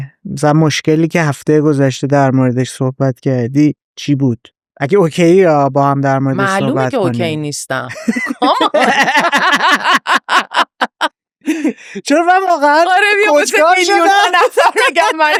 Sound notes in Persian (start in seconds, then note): 10.7 خنده